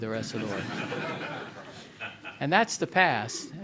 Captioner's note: audience laughing